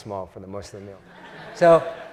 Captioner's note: laugh